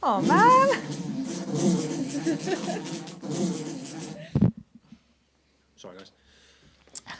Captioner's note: flies buzzing